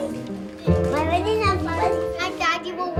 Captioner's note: child chatters